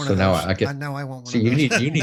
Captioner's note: laughing